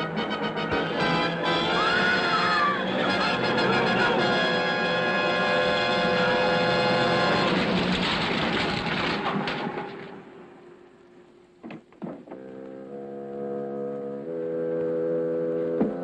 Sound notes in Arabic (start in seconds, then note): 1.3 صراخ; 8.3 ضجيج ساحق; 12.3 الموسيقى الهادئه